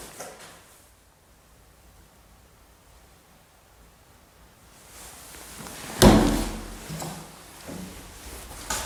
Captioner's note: there was a loud closing sound somewhere